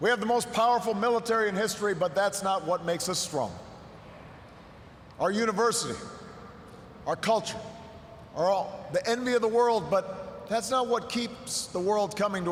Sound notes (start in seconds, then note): none